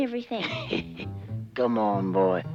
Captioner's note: Rock Man laughing